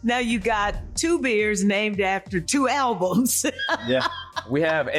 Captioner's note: laughing